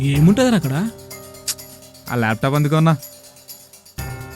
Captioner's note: frustratingly